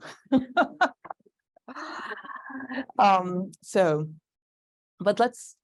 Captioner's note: laughs